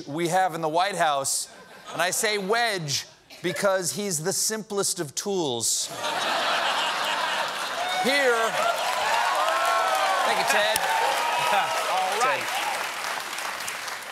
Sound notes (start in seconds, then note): 4.2 applause; 4.2 laughter